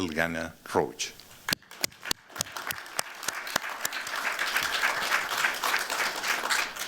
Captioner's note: applause